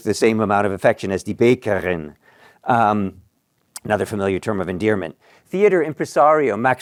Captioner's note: non-english